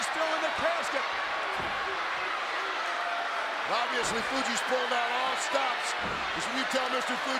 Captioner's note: applause